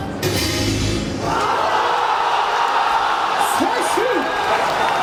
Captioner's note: crowd cheers